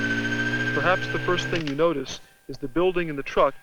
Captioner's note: camera shutter clicks